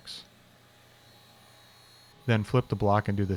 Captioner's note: metal grinding